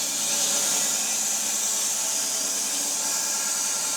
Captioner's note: saw buzzing